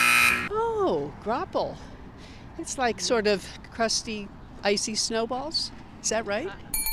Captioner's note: loud alarm sound appear